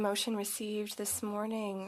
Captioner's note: speaking French